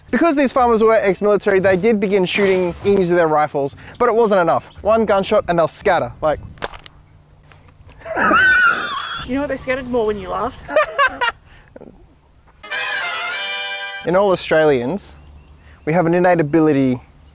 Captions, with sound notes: Because these farmers were ex-military they did begin shooting emus with their rifles But it wasn't enough One gunshot and they'll scatter, like *Claps weakly* *Wheezy fax machine giggle* You know what ,they scattered more when you laughed *Weird fake laugh intended to scare away the emus* In all Australians We have an innate ability